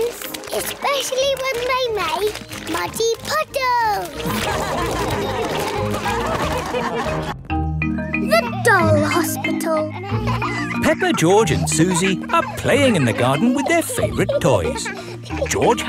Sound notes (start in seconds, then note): 4.2 all laugh; 10.1 kids laughing